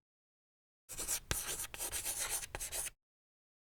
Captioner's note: chalk clacks on chalkboard